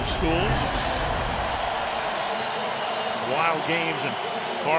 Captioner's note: cheering